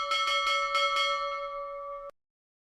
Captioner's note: ding DING DING DING DING DING DING DINGGGG; ding DING DING DING DING DING DING DINGGGG D; ding DING DING DING DING DING DING DINGGGG DING DING; ding DING DING DING DING DING DING DINGGGG DINGGGGGG